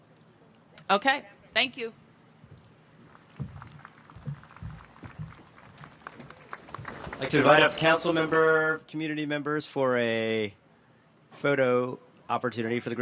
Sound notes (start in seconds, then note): 3.1 applause